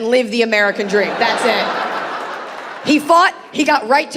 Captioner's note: audience laughing